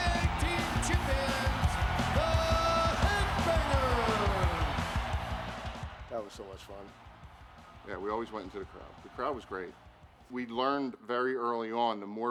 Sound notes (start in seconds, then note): 4.9 crowd roars; 4.9 upbeat music continues